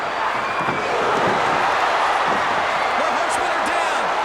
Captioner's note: crowd cheers